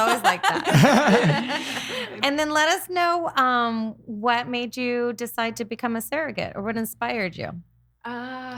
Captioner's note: laughing